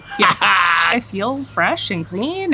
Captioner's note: laughing